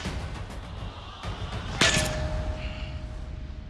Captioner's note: clanging